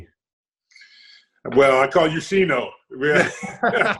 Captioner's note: laughs